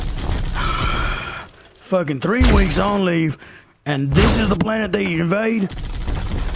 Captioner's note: sigh